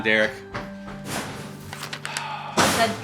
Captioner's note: door slams